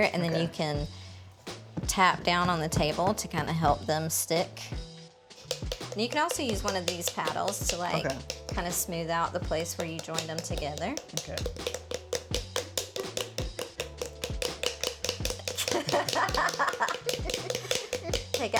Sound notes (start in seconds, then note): 12.3 paddles thudding; 15.5 both laughing